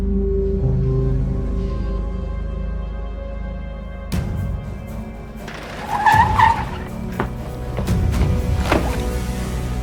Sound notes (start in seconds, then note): 0.1 suspenseful music; 5.4 tires screeching